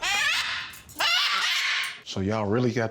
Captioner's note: squawks